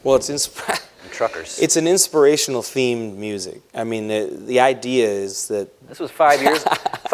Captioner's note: laughs